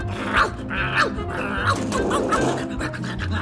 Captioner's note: barking continues